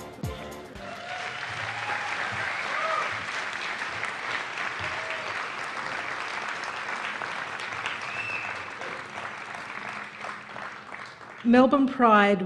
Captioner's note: applause